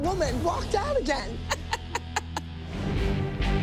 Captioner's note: laughs